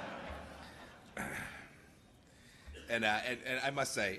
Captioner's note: laughter